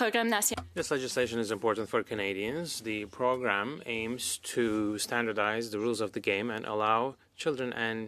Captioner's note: speaking French